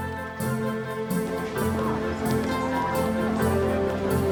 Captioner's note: crowd chatter